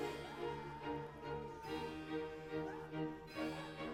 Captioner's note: sobbing